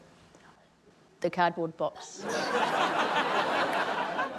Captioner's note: laughter